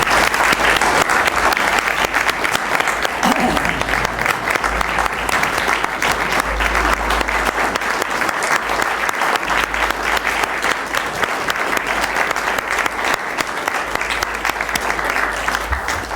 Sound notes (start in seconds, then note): 2.3 applause